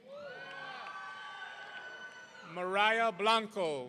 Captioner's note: audience cheering